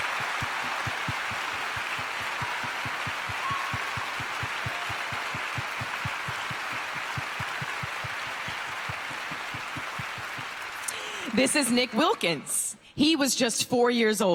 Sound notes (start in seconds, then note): 3.7 applause